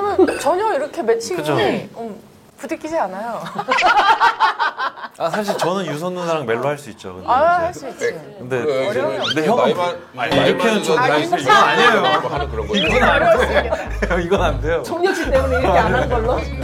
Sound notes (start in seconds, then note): 3.4 laughter